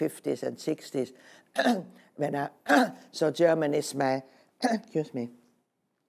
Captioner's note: coughing